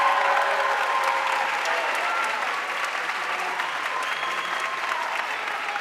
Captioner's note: audience cheering and applauding